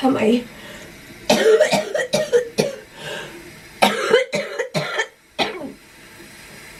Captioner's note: coughing